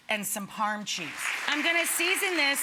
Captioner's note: audience applauds